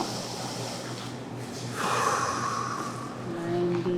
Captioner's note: breathes deeply